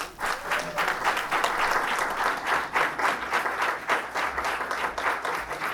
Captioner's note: applause